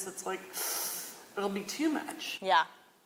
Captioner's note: inhale